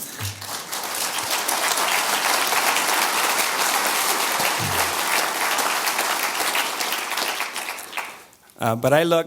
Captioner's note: audience applause